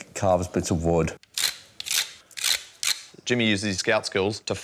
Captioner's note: scrapes